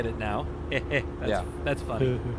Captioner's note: laughs